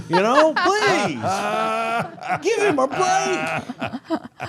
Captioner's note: laughing